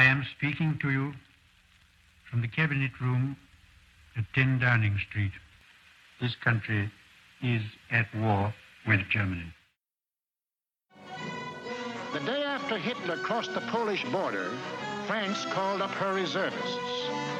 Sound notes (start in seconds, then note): 12.0 radio Announcer